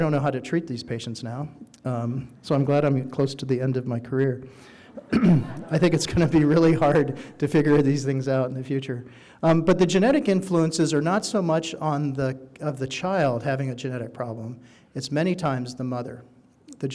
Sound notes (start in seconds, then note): 5.2 audience laughing